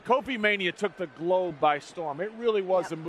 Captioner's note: laughter